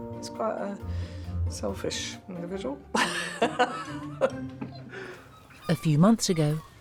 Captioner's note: laughs